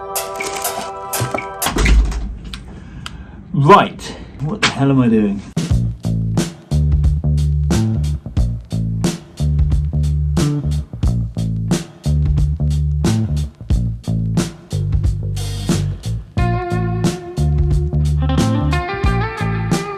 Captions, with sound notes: (paper rustling) (door closing) Right. What the hell am I doing? (funky music)